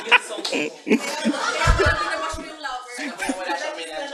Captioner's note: laughter; laughter and murmurs